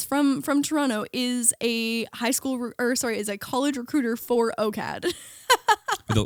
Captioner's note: laughing